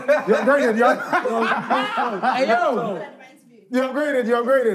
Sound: laughing

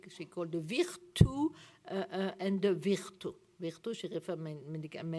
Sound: french

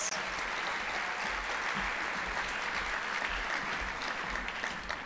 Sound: audience applauding

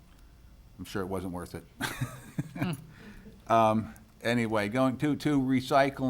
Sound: laughs

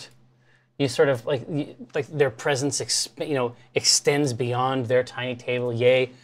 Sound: stammers

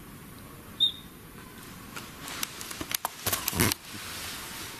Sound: whistling

